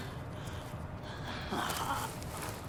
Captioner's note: groaning